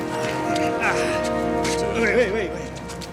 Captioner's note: thief grunting